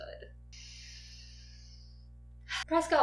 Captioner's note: deep breath